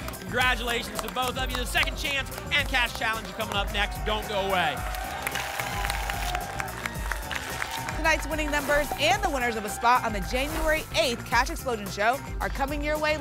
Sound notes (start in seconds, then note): 5.2 tickets shuffling; 6.4 applause and cheering